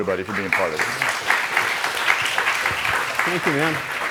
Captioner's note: audience applauds